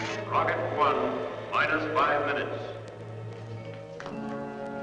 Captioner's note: loudspeaker; suspenseful music